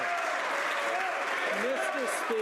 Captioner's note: some Applause